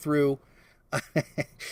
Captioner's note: laughs